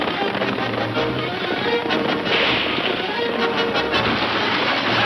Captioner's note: gun shooting; cowboys shouting